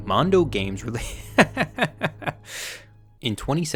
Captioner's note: laughing